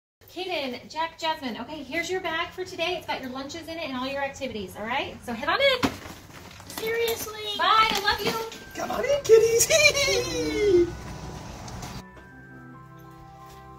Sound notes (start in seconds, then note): 9.3 laughing